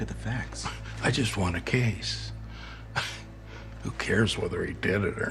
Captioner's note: laughs